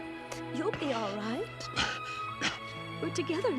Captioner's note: coughing